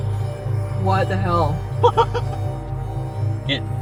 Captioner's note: laughs